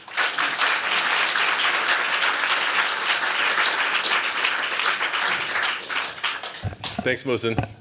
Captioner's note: applause